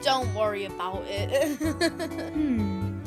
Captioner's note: amore used nervous chuckle